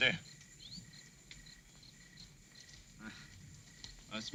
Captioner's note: insects chirping